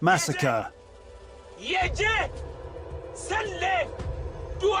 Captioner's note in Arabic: الصوت المنطوق باللغة العربية